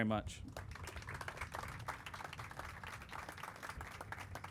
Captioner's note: crowd applauding